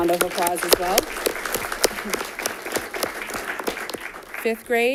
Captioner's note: audience applauding